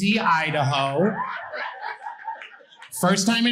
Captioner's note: audience laughing